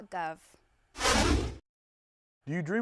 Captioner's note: whooshing